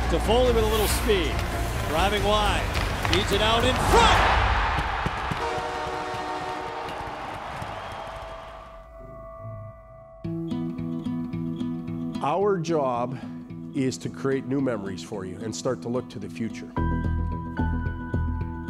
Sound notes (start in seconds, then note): 5.4 horn blows; 10.1 inspirational music